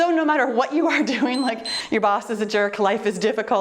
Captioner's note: timer beeps